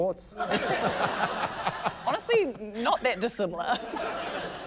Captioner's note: laughter